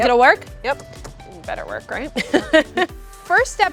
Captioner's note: laughs